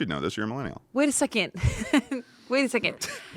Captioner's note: laughs